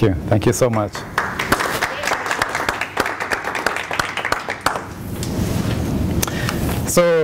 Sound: applause

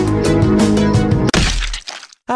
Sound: splat

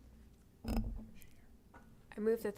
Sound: whispering

